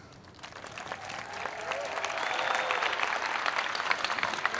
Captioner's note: applause